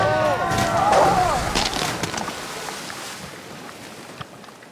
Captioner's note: bones crunch